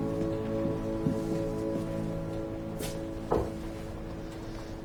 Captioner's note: Nick knocks on the wooden table